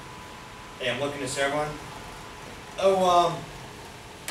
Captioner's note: speaks softly